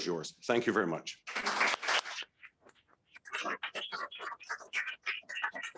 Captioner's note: people applauding